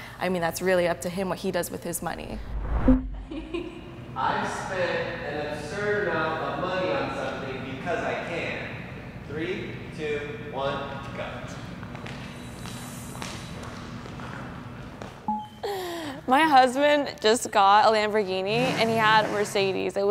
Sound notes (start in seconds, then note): 11.8 footsteps tapping